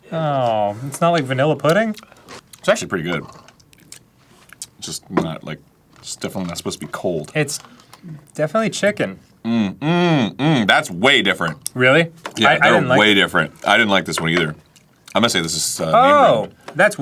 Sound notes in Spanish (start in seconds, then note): 9.4 molesto, hace jummm